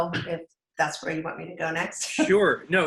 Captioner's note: laughs